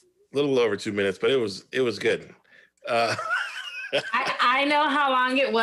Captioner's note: laughs